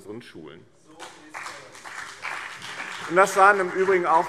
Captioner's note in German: Beifall BÜNDNIS 90/DIE GRÜNEN und CDU